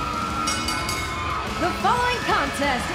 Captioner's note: bell ringing